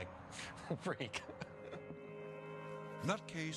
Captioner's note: laughs